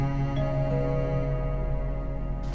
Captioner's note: doorbell rings